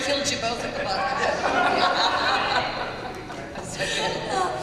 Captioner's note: laughter